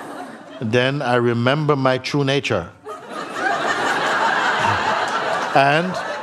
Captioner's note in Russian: смех